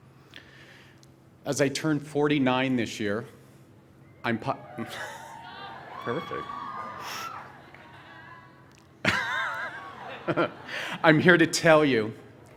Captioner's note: cheering